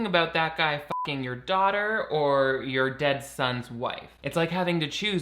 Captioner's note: beep